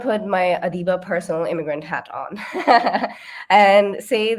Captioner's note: chuckles